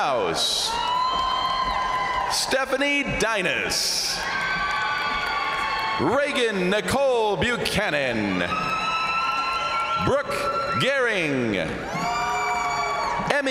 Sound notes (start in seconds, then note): 0.3 crowd applauding; 0.3 crowd cheering; 3.8 crowd applauding; 3.8 crowd cheering; 8.1 crowd applauding; 8.1 crowd cheering; 11.7 crowd applauding; 11.7 crowd cheering